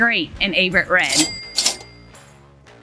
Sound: ca-ching sound

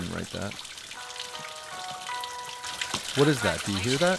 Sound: chime

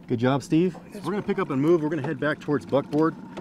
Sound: boat engine idling

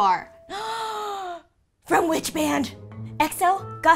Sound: gasps

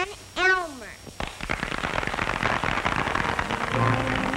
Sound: applause

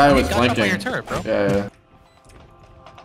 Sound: guns banging; guns firing; suspenseful music

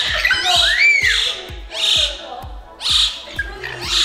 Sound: birds squawking

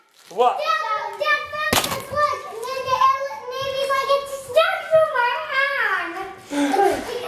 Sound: nonsense noises

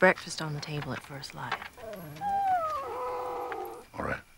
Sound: dogs whimpering

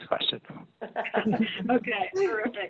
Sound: laughing

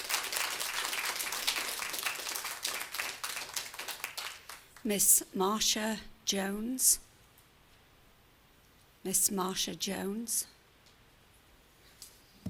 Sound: applause

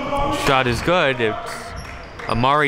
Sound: yelling

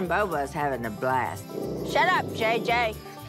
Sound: JJ growling

